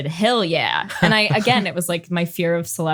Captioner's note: laughs